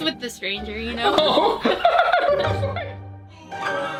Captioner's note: laughs